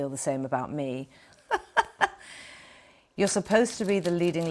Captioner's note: Kate chuckling